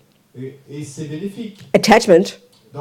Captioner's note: audience member speaks in French